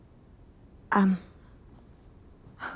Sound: exhales

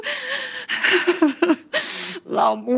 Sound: crying

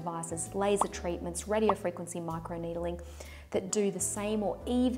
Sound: popping

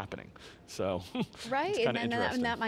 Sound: giggles

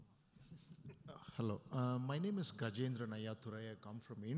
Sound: voiceover

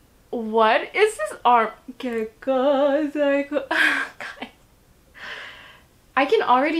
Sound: laughs

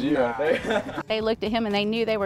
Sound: laughs

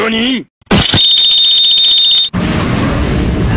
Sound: beeeeeeeeeeeeeeeep!

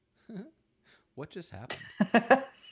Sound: laughs

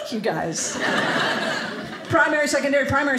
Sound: audience laughing

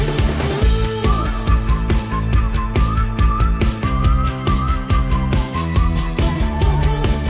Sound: whistling

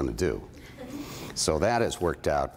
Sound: laughter

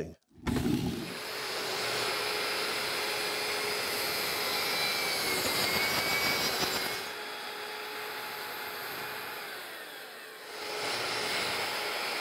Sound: saw buzzing

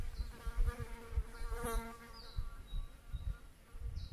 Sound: fly buzzes

